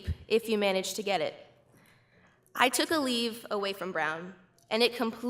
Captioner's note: none